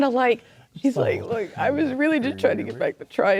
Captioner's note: ribbiting